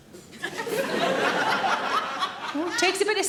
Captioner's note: audience laughing